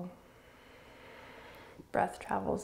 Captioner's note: exhaling